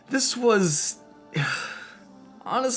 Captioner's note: exasperated sigh